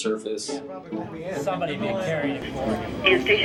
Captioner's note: room chatter